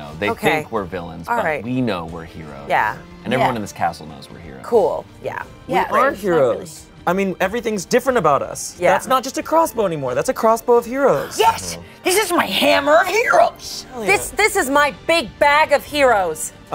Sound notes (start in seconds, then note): none